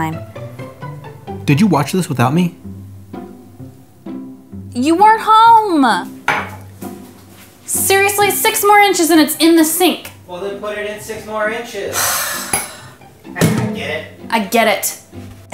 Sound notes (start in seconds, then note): 6.2 mug clanks; 11.9 heavy sigh